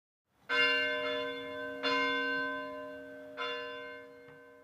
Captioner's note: bell ringing